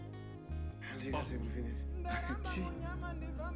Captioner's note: chuckles